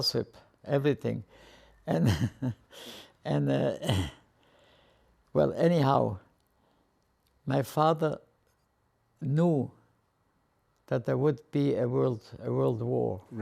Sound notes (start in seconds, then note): 2.0 laughing